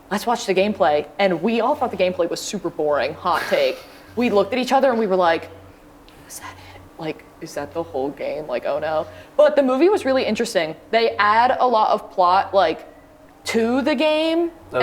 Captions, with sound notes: "Let's watch the gameplay!" and we all thought the gameplay was super boring, hot take. We looked at each other and we were like, [whispers] "Is that it?" "Like, is that the whole game? Oh no..." But the movie was really interesting. They add a lot of plot like, to the game,